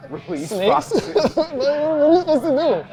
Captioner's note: laughing